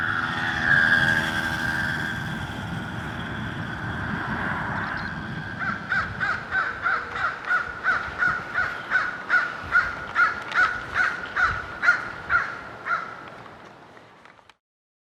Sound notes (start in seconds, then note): 5.9 bird